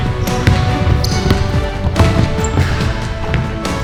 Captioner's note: ball bounces; upbeat orchestral music